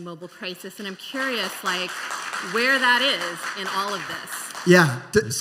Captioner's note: applause